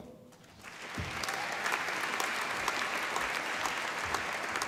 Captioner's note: applause